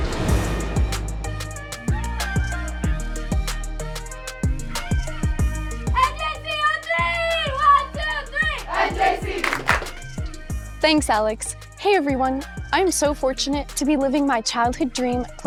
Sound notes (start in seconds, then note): 0.3 upbeat music; 9.2 clapping